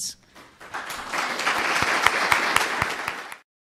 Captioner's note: applause